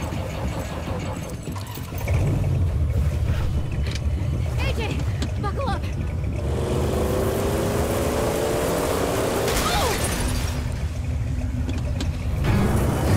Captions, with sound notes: (ENGINE STALLS) (ENGINE STARTS) CLEMENTINE AJ! Buckle up!